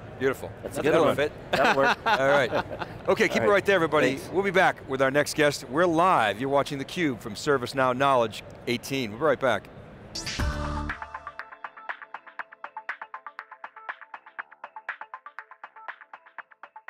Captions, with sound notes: >> Beautiful that's a good one. >> The other won't fit. (laughter) >> That'll work, all right. >> Okay keep it right there everybody, we'll be back with our next guest. We're live, you're watching theCUBE from ServiceNow Knowledge18, we'll be right back. (upbeat music)